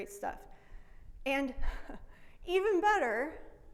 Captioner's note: laughs